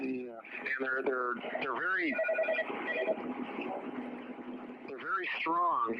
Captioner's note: phone rings